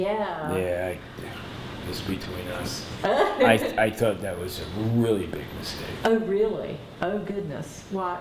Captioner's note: laughter